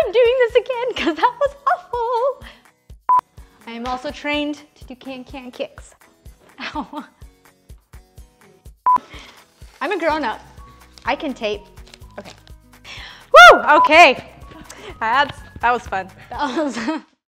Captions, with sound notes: I'm doing this again 'cause that was awful. (beeping) I am also trained to do can-can kicks. Ow. (laughing) (beeping) I'm a grown up, I can tape, okay. Woo, okay that was fun.